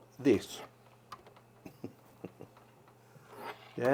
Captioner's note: chuckles